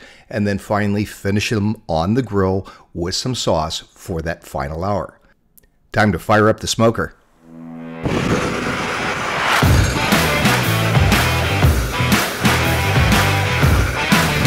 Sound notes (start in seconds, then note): 7.5 fire whooshing; 7.5 powerful rock music